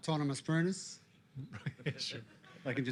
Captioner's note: sarcastic laughter